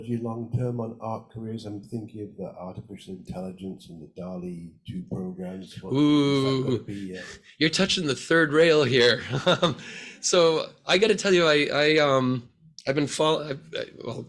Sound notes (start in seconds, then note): 9.0 laughs